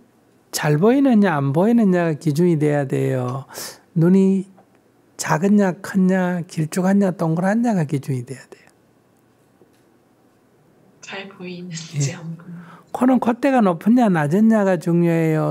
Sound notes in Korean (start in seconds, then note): 11.9 질문자 웃음